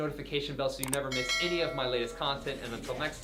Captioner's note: bell ringing